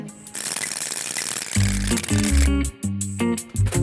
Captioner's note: whirring